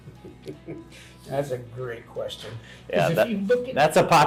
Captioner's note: laughs